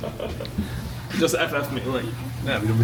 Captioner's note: laughing